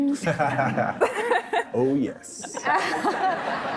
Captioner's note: laughing